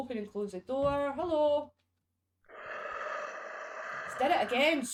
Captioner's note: ghost noise